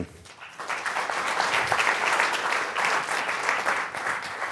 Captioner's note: applause